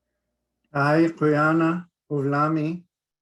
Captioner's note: speaking Inupiaq